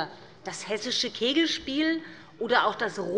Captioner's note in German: none